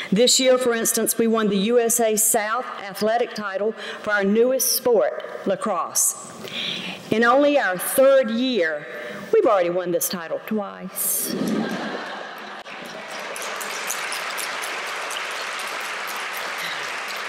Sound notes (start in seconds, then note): 11.3 laughter; 12.6 applause